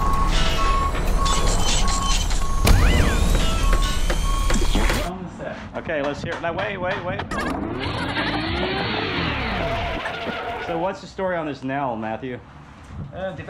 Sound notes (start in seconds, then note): 0.0 construction commotion; 3.4 hammers thudding; 3.4 saws buzzing; 9.6 tires screeching